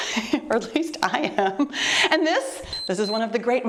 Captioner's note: timer beeps